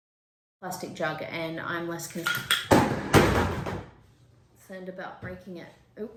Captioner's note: blender clatters onto the floor